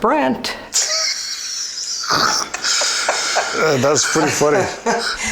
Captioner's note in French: Rires